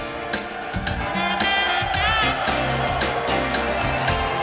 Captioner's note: audience shouting